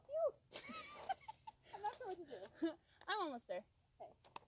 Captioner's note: laughing